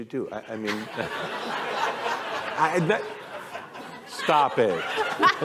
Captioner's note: laughter